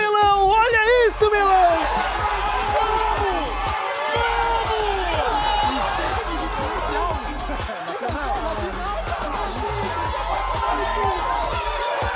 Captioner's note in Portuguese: gritos de comemoração da torcida